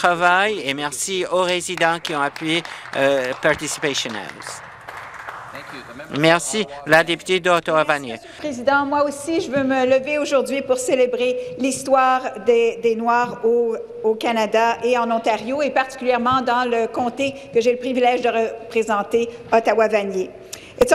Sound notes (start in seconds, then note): 5.3 some Applause; 14.8 speaking French